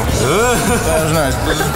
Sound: laughing

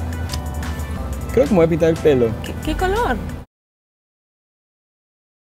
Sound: speaking in foreign language

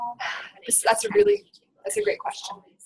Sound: voiceover

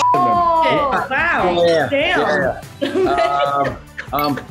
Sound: group mumbling in unison; upbeat music

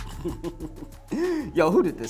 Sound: laughs

